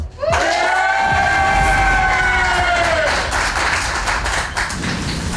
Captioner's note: crowd clapping and cheering